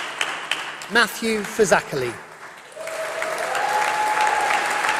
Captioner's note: applause